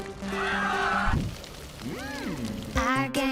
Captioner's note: people screaming lightly